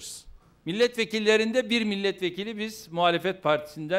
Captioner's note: non-english speech